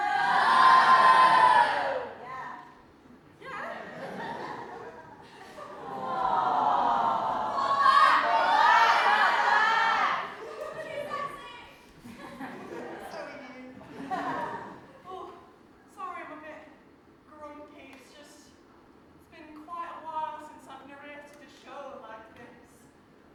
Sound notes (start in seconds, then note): 5.7 audience awwws, shouting "come back!